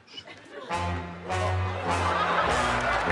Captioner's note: laughter; cheering and applause